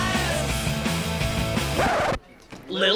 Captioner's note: record scratches